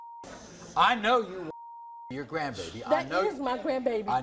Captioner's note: beep